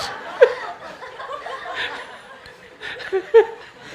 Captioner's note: laughter